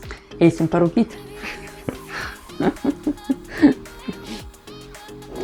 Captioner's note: both laughing in Lithuanian